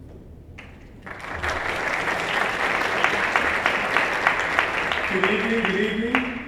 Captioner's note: applause